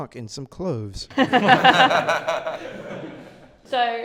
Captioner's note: laughter